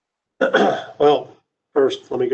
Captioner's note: clears throat